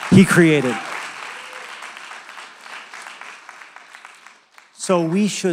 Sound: applause

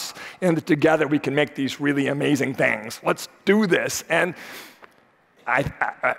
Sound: none

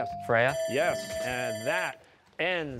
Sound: bell ringing

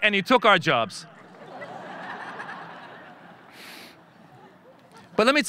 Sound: audience laughing

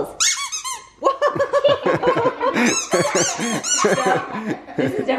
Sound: laughing

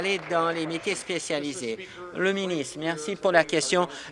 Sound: applause

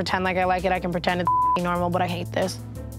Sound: beeps

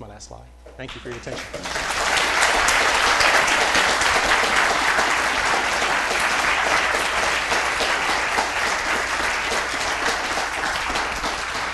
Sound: applause

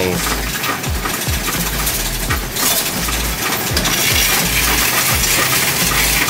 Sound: upbeat music; coins rattling

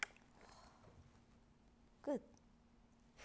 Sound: sigh

